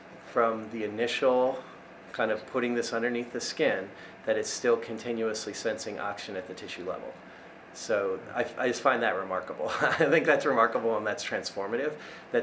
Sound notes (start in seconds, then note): 9.7 laughs